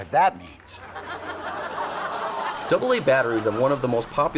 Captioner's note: audience laughs